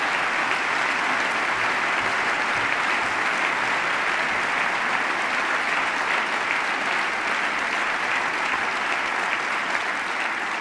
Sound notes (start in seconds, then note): 0.0 applause